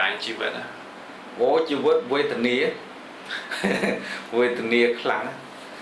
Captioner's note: laughs